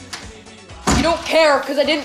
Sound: door slams

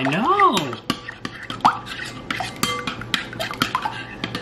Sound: bowl clanking

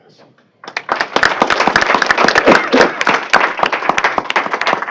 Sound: applause

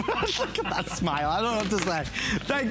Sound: laughter

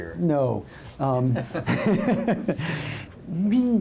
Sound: laughing

